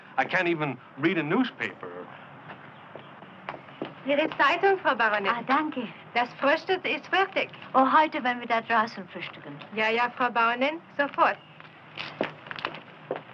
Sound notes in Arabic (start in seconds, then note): 4.0 الصوت المنطوق باللغة الألمانية